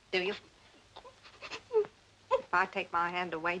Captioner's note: Agnes whimpering